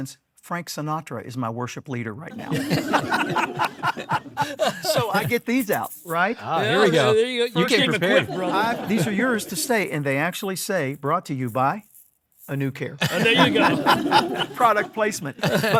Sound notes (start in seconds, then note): 3.8 everyone laughs